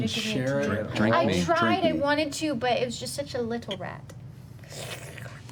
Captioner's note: slurps